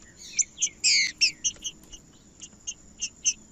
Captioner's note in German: trinca ferro cantando